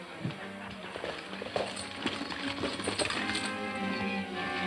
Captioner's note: galloping hooves